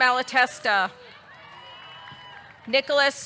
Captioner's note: audience cheering; audience clapping